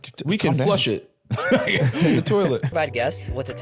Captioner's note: laughs